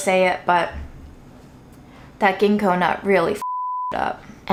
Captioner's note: beeps